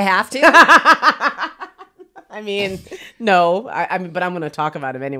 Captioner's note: laughs